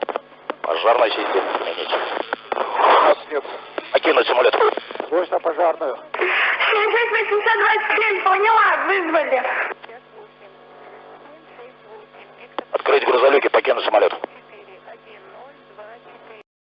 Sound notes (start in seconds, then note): 4.5 evacuation alarm sound